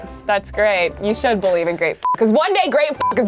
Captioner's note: beep